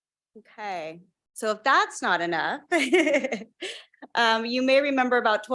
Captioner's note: chuckles